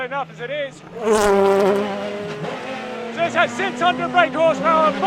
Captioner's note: engine revving